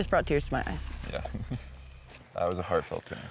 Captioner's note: chuckles